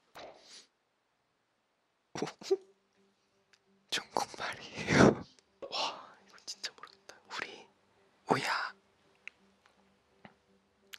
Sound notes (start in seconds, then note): 2.2 confused